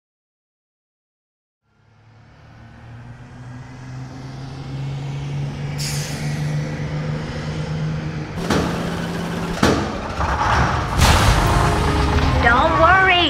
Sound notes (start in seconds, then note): 4.6 bus Driving; 10.3 engine Sounds